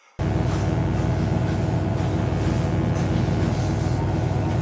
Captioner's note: electric buzzing